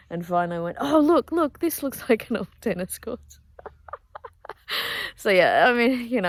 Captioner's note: laughs